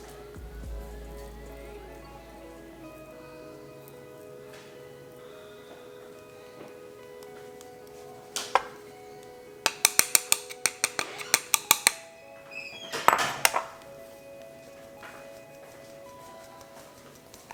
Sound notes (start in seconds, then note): 0.1 ambient music; 9.6 sound of plate hitting the metal on sifter